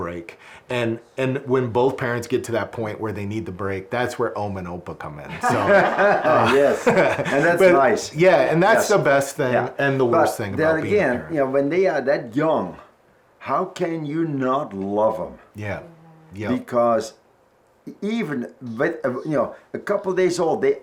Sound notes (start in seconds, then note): 5.3 laughs